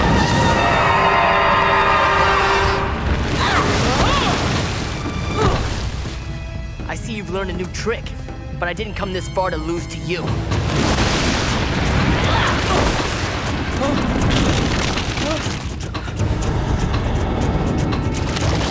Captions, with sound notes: [screaming] [grunting] I see you've learned a new trick, but I didn't come this far to lose to you. [grunting]